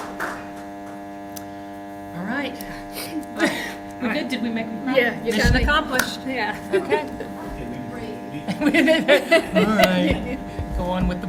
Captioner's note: applause